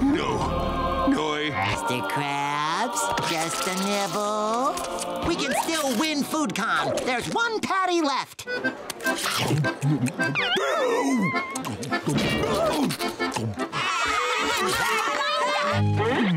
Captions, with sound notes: -No, no I-- -Mr. Krabs... Just a nibble... We can still win Food Con, there's one patty left. [screaming] [screaming]